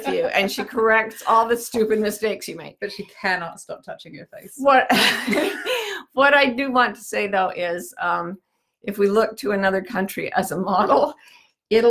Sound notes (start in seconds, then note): 4.9 both laughing